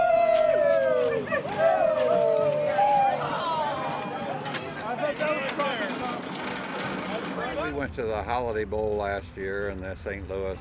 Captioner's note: laughing